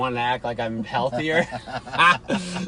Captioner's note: laughing